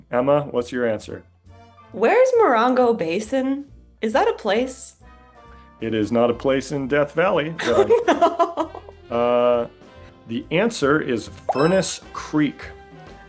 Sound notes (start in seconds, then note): 7.6 laughing